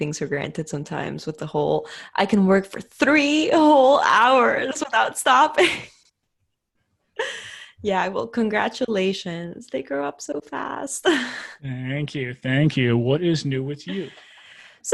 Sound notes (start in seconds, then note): 6.5 laughs